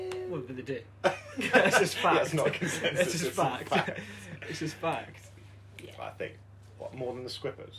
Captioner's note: laughter